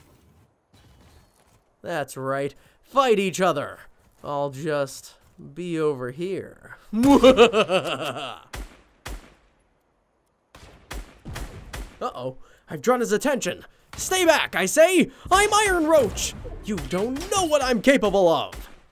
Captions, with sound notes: That's right, fight each other. I'll just be over here. (laughs) (guns banging) Uh oh, I've drawn his attention. Stay back, I say. I'm Iron Roach. You don't know what I'm capable of.